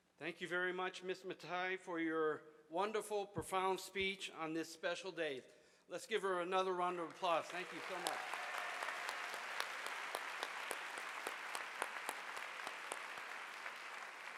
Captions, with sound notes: - Thank you very much Ms. Mathai for your wonderful profound speech on this special date. Let's give her another round of applause. Thank you so much. (audience applauding)